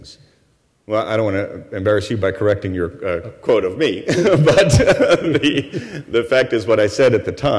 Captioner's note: laughter